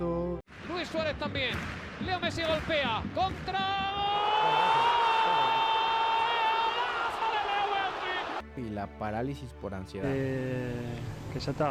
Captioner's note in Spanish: grito